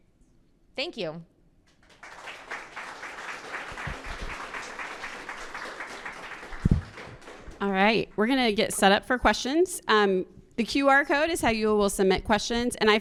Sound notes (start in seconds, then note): 1.7 attendees applauding